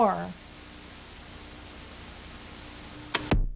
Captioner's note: static; electronic music